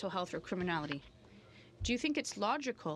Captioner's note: speaking French